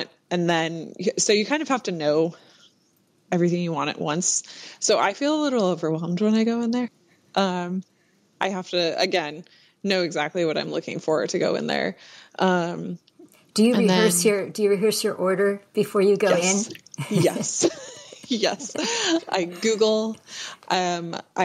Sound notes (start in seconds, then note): 17.0 laughter